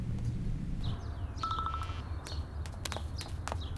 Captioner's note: Notification sound